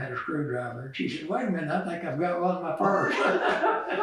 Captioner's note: laughter